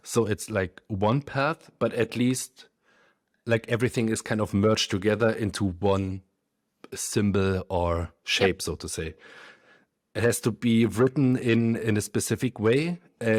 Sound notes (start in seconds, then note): none